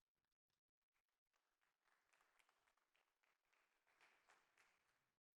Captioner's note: applause